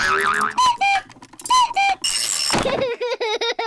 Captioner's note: panting; clock cuckoos; laughs